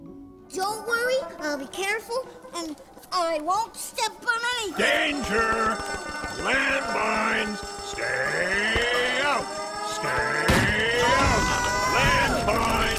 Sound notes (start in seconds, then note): 0.2 silly music; 5.5 alarm ringing; 8.7 siren blaring; 10.4 crashing; 11.6 kids screaming